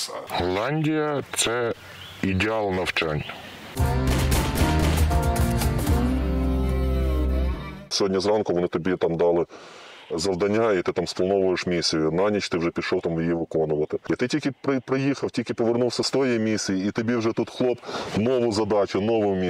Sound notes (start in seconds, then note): none